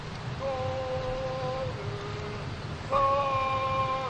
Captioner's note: cadence calls